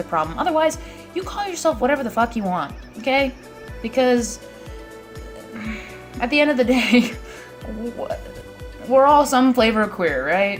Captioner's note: laughs